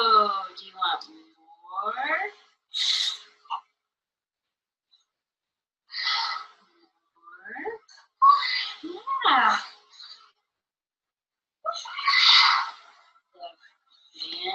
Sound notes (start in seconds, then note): 8.5 child screeching